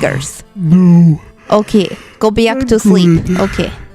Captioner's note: yawning